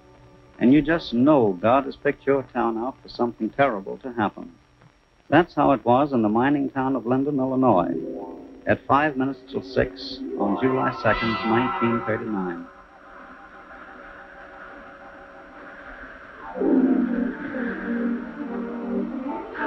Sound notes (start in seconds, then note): 13.3 wind howling; 19.2 indistinct shouting